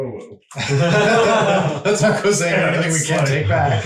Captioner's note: all laughing